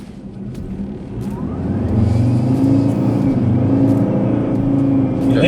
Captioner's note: car accelerating, engine revving